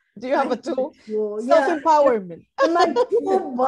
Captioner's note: laughs